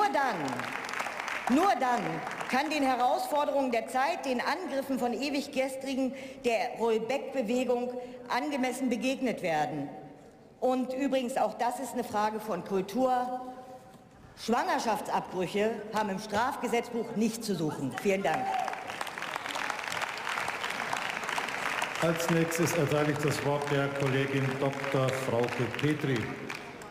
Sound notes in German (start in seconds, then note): 20.0 Beifall